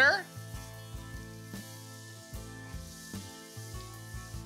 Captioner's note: butter sizzling